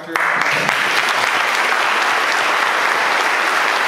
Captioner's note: applause